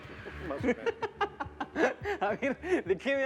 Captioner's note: Risas